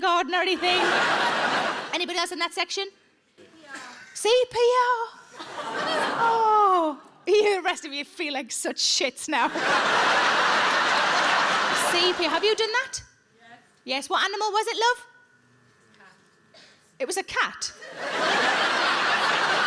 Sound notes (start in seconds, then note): 9.4 audience laughs